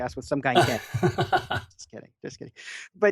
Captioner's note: laughing